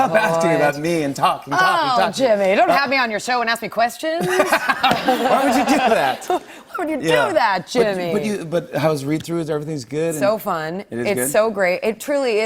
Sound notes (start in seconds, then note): 4.2 laughter